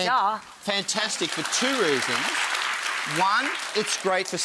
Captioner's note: audience clapping